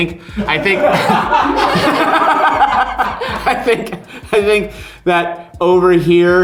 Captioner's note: all laughing